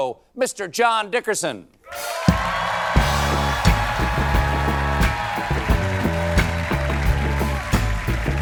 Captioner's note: cheers and applause